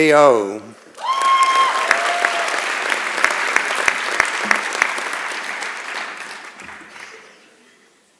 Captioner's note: applause and Cheering